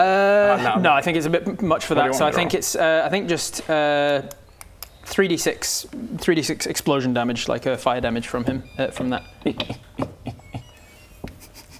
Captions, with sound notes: - Naw - Naw, I think it's a bit much for that, so I think it's... I think just... Ehhh... *thinking noises* 3d6. 3d6 explosion damage, like a fire damage from him, from that. *happy electronic beeps*